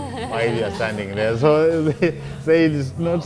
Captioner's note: laughing